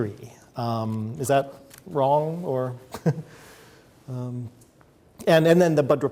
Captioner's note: chuckles